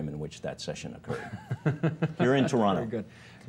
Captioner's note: chuckling